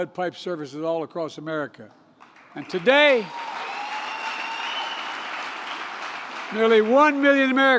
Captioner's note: applause